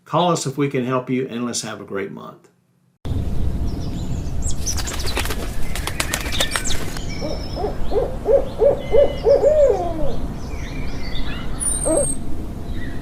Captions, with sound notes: Call us if we can help you, and let's have a great month. (birds chirping) (owl flapping its wings) (owl hooting)